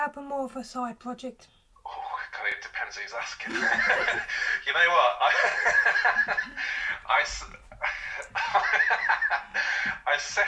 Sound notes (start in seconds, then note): 5.1 laughter